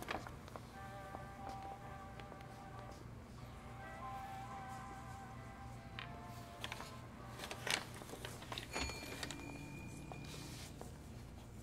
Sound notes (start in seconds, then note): 8.6 shopkeepers bell jingles